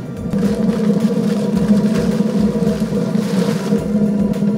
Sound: boiler rumbles

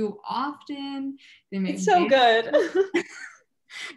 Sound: chuckles

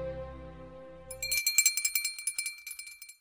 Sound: subscription bell jingles

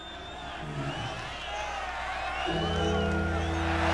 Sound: crowd cheering

